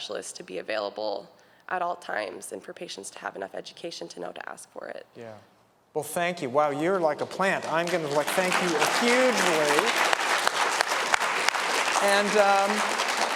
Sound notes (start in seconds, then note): 7.4 applause